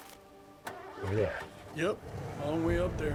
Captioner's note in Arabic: يبدأ المحرك